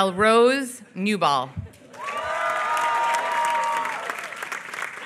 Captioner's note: applause